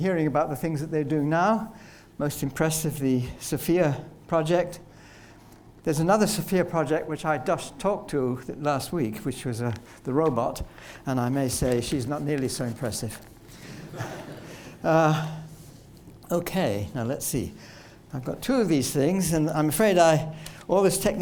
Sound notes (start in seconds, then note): 13.7 laughter